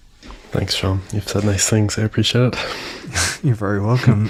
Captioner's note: laughs